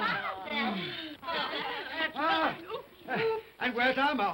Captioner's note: giggling